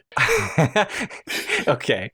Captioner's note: laughter